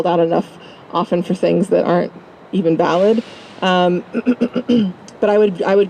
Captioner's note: cough